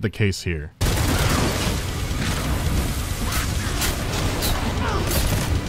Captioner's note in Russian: звуки дикой резни